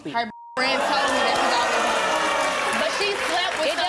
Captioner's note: crowd yelling and cheering